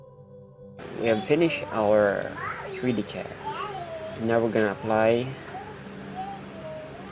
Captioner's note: baby sound